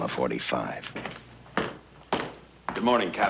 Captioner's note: Chasen's footsteps